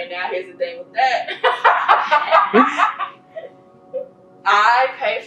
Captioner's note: laughing